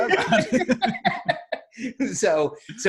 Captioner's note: laughing